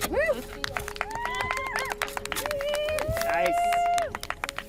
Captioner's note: attendees applauding, cheering